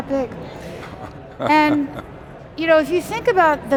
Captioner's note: laughs